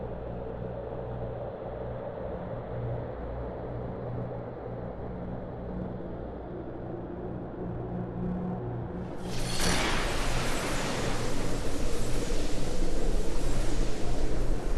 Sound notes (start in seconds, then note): 9.2 whooshing